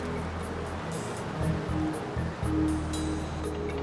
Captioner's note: traffic passing